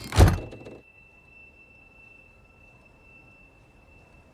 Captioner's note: door clicking; door slamming